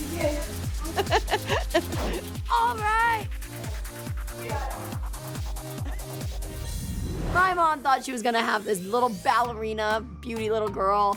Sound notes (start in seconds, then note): 0.1 laughs; 3.0 upbeat music playing